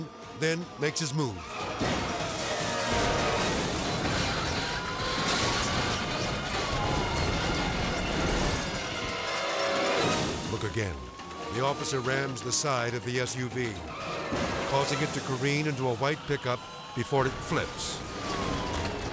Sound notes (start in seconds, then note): 1.7 cars crashing